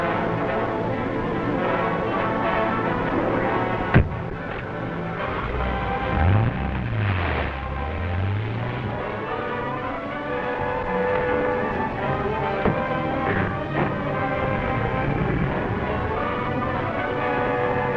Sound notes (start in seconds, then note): 0.1 suspenseful orchestral music; 5.4 car starts; 14.6 car starts